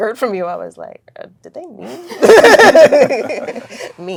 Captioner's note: all laughing